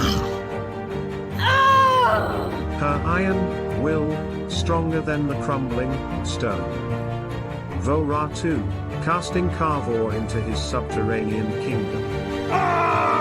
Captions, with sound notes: [Furious Cry] Her Iron Will Stronger Than The Crumbling Stone ! Vorahtoo Casting Calvoore Into His Subterranean Kingdom...